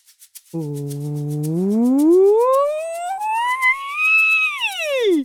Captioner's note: does a vocal siren